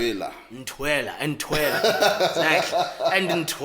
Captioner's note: laughs